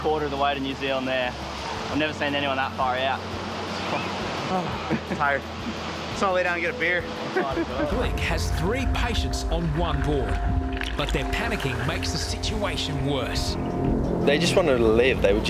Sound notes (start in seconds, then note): 4.9 sighs; 7.3 laughs